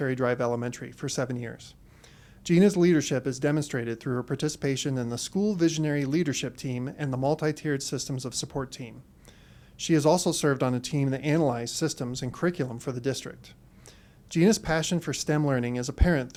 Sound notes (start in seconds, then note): none